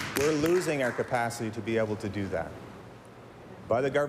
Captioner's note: applause